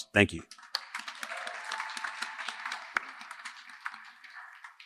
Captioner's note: applause